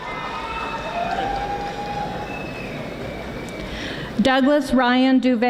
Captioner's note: audience applauding